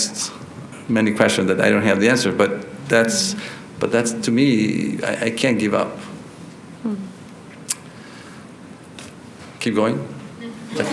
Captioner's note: laughter